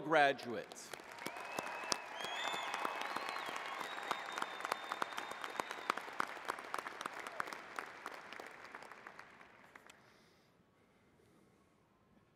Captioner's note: applause